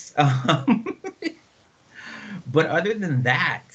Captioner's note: laughing